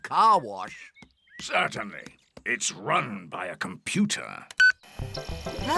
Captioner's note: beeps